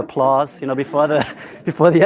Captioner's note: laughter